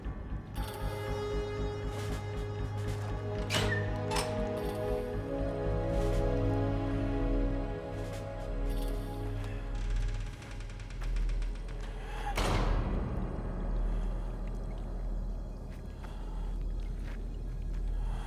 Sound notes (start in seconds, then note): 0.3 suspenseful music; 2.9 lock creaks; 10.0 door creaks and thuds; 15.4 ominous music